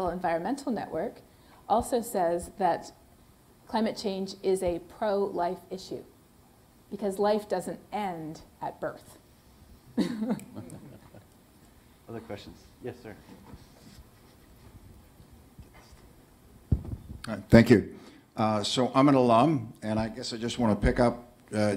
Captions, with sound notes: Environmental Network also says that climate change is a pro-life issue because life doesn't end at birth. [LAUGHTER] Other questions. Yes, sir. Thank you. So I'm an alum. And I guess I just want to pick up--